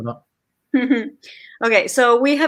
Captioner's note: laughs